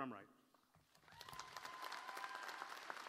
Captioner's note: applause